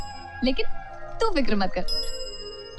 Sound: cycle bell rings; laughs; cycle bell rings

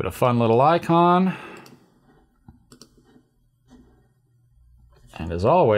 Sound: typing

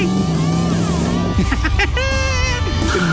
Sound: laughing

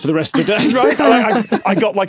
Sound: guests laughing

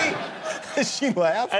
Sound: laughter

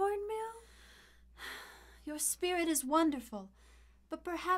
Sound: sighs

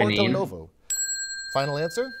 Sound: bell ringing

